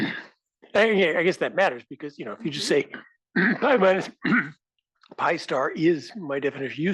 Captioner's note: cough